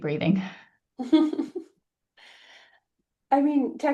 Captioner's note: laughs